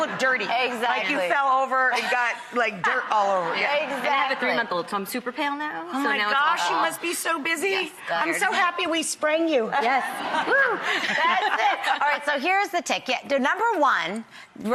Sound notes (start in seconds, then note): 3.4 laughing; 9.8 laughing